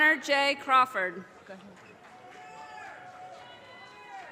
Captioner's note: audience cheers and applause